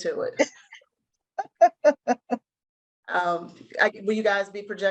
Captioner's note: laughter